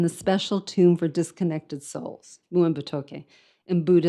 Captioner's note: speaks in foreign language